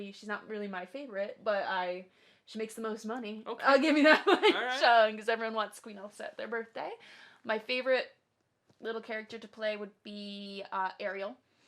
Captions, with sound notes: - She's not really my favorite, but she makes the most money. - Okay. - I'll give you that. (laughs) Because everyone wants Queen Elsa at their birthday. My favorite little character to play would be Ariel,